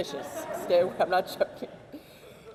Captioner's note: audience laughs